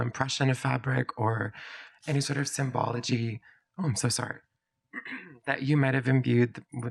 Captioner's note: clears throat